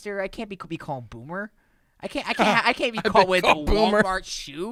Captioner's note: laughing